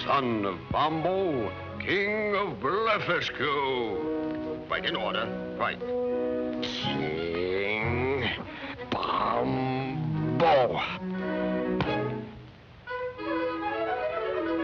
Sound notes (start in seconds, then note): 1.2 german accent